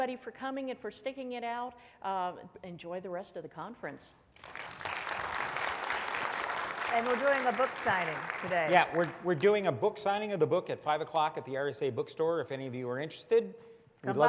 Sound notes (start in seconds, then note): 4.3 audience clapping loudly